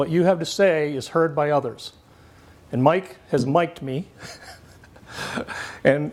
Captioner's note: laughs